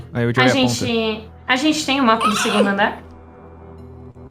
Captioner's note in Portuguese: Grito sussurrado